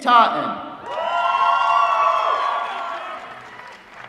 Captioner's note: applause